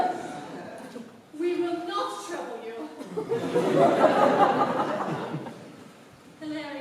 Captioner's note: laughter